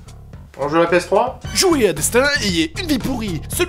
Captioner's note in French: Voix-Off